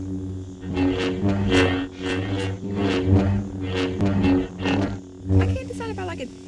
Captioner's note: sabers humming